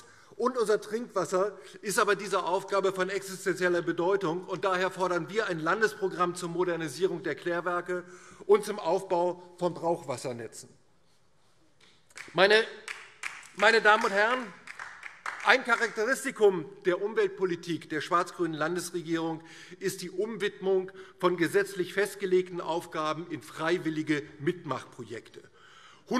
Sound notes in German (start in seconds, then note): 10.5 Beifall DIE LINKE